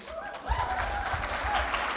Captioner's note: applause